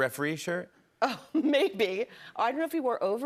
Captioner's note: laughing